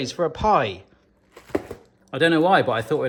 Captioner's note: box thudding